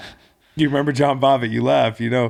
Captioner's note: laughing